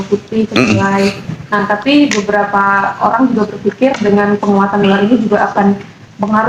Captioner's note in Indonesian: berdehem